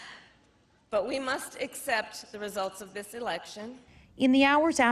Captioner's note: chuckle